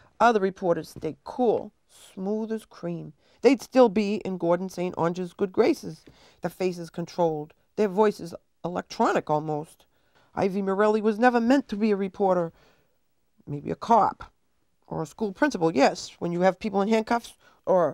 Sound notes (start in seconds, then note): none